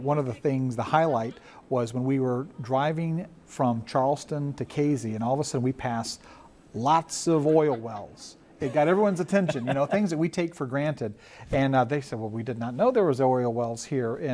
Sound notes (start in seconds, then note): 8.6 laughing